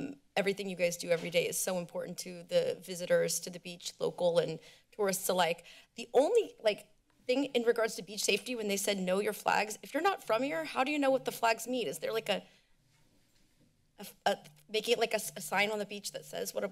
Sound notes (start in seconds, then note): none